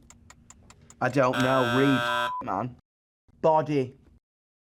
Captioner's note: buzzer ringing; beep